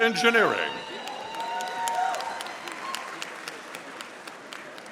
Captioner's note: audience applauding